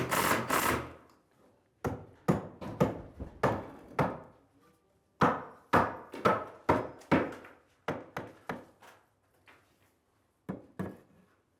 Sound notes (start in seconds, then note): 2.5 hammering sounds